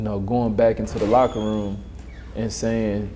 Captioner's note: door opening